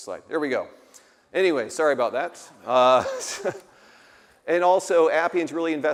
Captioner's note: laughs